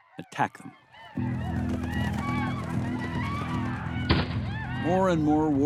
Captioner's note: war cries, pounding hooves, gunfire